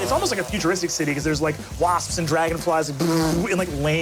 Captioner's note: buzzes